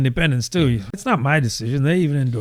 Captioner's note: uh